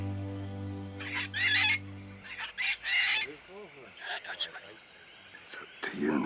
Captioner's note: Captain Flint squawking